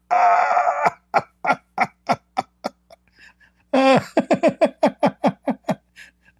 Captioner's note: Ketawa